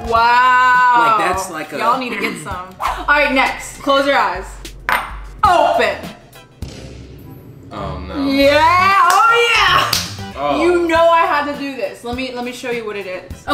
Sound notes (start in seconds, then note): 4.7 bowl clinks; 6.6 explosion